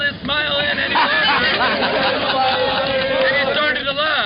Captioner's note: laughing